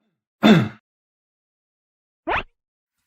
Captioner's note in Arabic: سعال